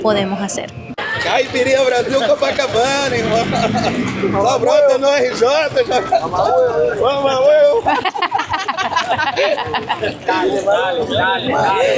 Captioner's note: laughs